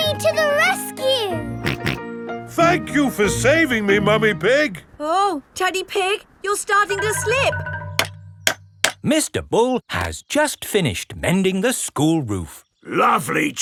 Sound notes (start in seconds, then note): 2.4 snorting; 8.6 clanking